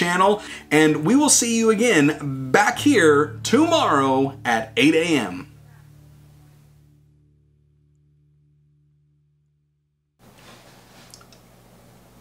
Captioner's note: sing songy